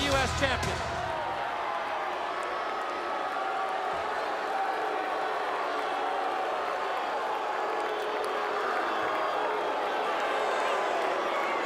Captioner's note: crowd chatter